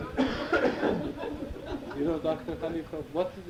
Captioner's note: audience laughs